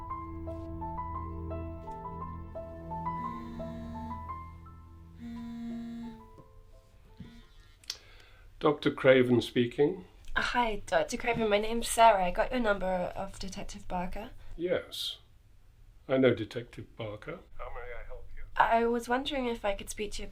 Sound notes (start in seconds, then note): 0.8 phone dialing; 2.7 phone vibrating